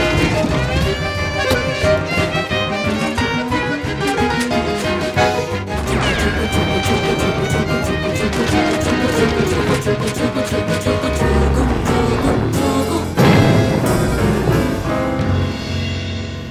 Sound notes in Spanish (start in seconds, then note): 11.8 ¡bum!